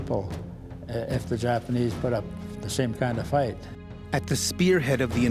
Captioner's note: voiceover